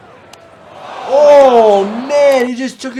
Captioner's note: crowd